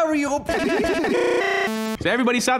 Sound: laugh

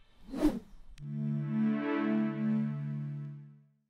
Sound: air whooshing

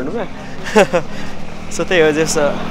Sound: giggles

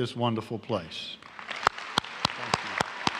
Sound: applause

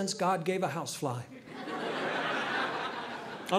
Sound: audience laughing

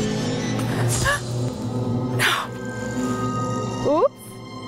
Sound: gasps

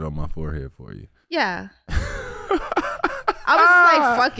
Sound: Iman laughing

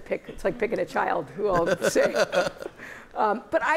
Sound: laughter

